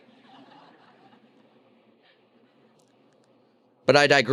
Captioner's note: loud laughter